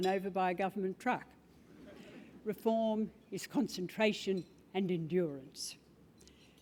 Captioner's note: laugh